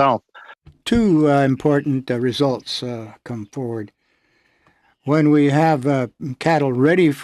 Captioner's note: speaking French